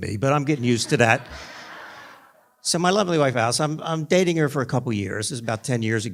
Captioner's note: laughter